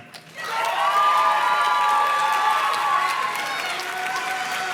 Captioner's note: audience cheers and claps